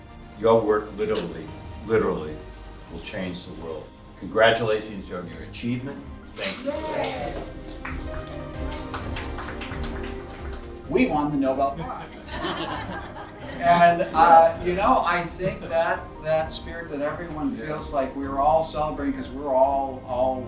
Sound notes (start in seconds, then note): 6.4 applause; 6.5 camera sounds; 12.0 laughter